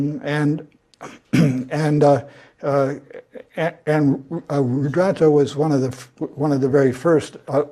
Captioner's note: cough